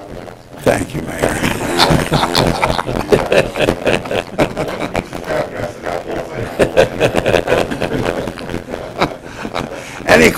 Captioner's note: laughter